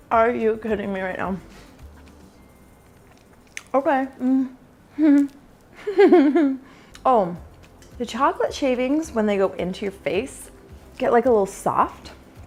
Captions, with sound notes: Are you kidding me right now? Okay (laughing) The chocolate shavings, when they go into your face, get a little soft,